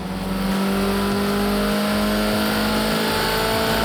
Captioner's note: engine roars